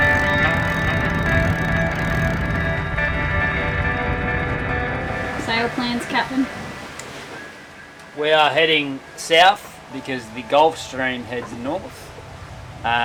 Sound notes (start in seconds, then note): 1.9 wind hums